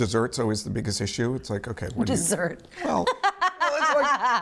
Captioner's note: laughs